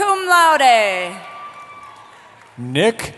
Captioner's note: cheering